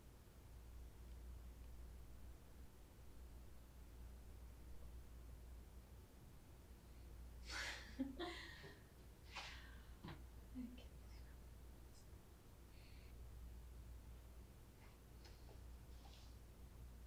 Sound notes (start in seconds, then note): 7.6 Natalie laughing